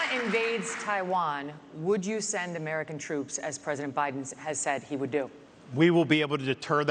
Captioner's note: applause